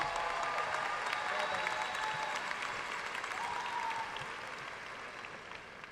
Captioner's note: audience cheering and applauding